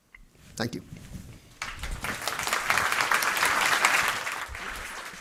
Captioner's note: applause